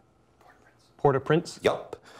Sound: whispering

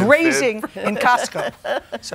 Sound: laughter

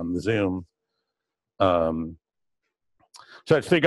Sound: pause

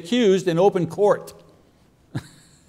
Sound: chuckles

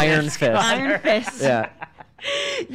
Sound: laughing

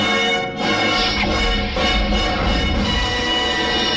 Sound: digital whooshing sounds

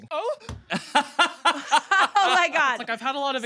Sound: laughing

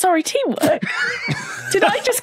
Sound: both laugh

